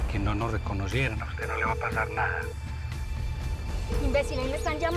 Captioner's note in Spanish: Suena el celular de Daniela